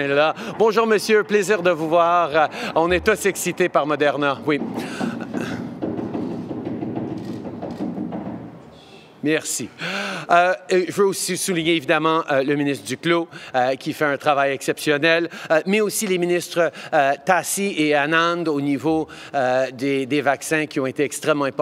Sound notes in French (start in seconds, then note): 2.6 Bruit de réverbération intense